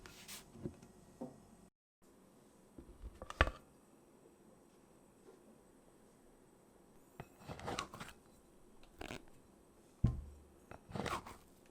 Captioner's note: folding